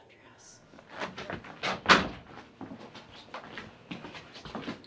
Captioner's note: camera shuffles